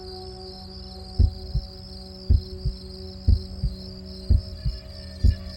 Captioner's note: heartbeat thumping